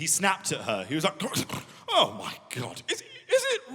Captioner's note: gurgling